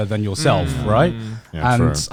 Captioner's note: affirmative murmuring